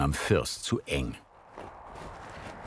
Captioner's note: wind rustling